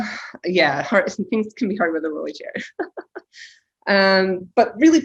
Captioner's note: laughs